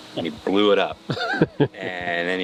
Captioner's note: chuckles